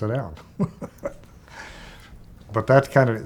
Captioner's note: chuckling